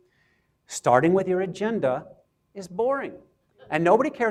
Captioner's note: audience chuckles